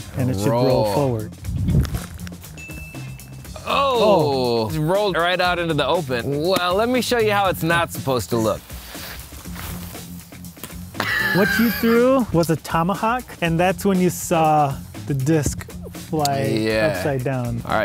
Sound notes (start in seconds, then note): 8.4 clothes rustling; 11.0 laughing